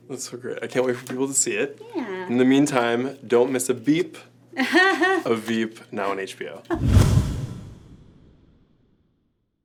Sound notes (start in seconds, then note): 4.6 Anna laughs; 6.7 whoosh